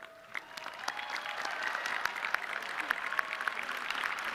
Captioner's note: audience clapping